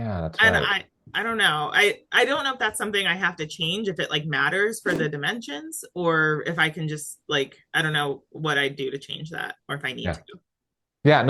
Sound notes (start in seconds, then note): 4.9 graphic whooshing